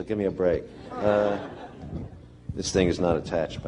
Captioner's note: laughter